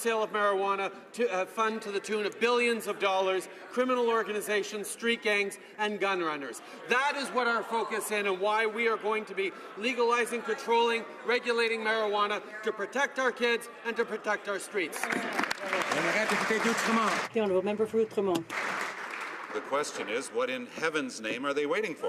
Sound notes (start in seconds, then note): 19.9 speaking French